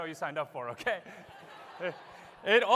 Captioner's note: laughter